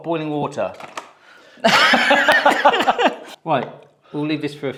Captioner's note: packet thuds; both laugh loudly